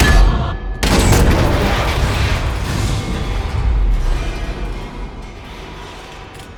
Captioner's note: metallic clang; loud, echoing crash